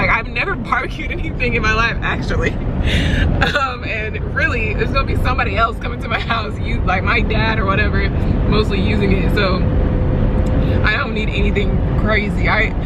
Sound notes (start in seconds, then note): 3.4 laughs